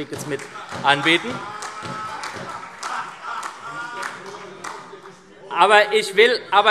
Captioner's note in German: Beifall SPD - Lachen BÜNDNIS 90/DIE GRÜNEN